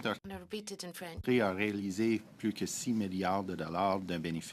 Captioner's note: speaking French